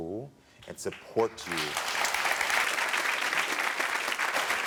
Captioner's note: cheering